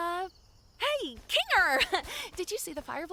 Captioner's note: laughs awkwardly